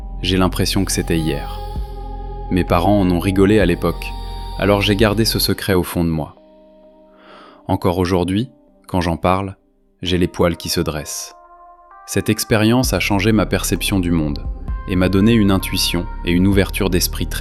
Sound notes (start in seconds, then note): 7.1 sigh